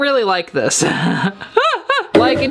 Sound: laughs

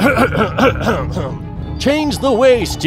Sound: coughs

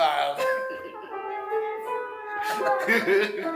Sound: giggling noises

